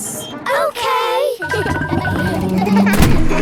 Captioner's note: kids laughing